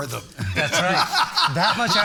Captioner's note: all laughing